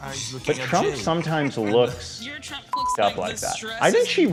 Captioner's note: beep